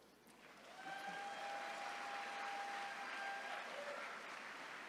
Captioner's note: attendees cheering